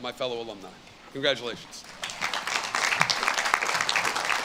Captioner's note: audience claps